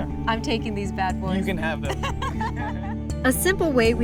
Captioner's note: laughter